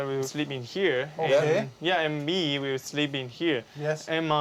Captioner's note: speaking Chinese